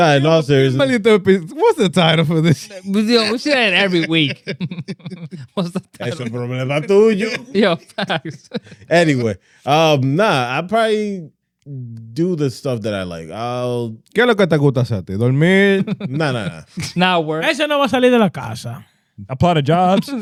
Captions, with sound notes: Not in all seriousness. What's the title for this? We should add every week. (Laughing) I should put a minute, I'm doing you? Yo, thanks. Anyway, nah, I probably do the stuff that I like. (Speaking In Foreign Language) It's not worth it. (Speaking In Foreign Language) I play the jobs.